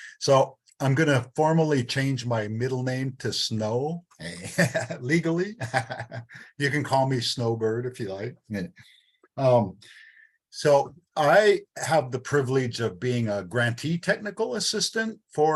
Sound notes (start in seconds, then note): 5.8 laughing